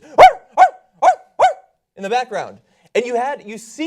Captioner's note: barking